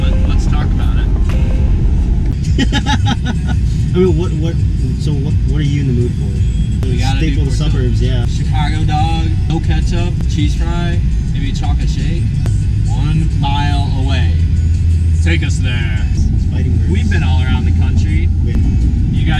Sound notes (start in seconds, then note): 2.5 laughing